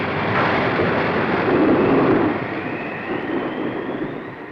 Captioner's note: thunder rumbles